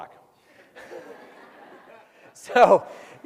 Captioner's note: crowd laughs